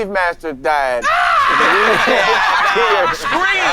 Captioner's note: all laughing